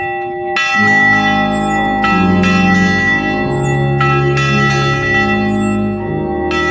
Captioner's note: bell clangs; smooth music